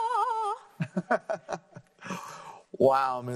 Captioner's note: laughing